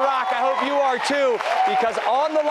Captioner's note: cheers